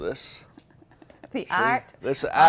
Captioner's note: chuckles